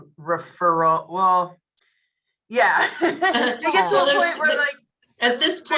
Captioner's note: laughs